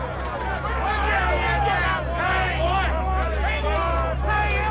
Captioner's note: crowd shouting